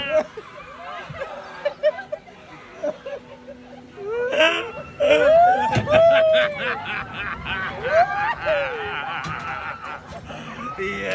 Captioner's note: laughter